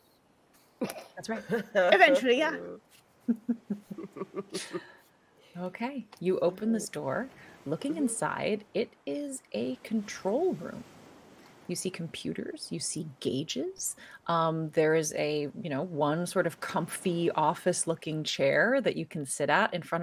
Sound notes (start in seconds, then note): 0.8 person laughing; 3.2 people chuckling